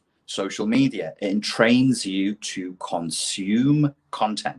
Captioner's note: none